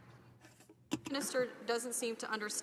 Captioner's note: speaking French